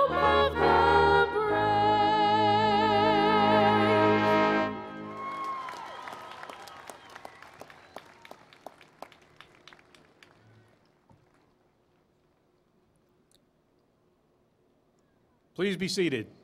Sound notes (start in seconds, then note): 5.0 applause